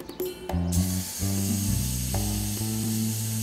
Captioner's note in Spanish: silbido